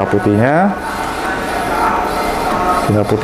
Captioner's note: printer machine sound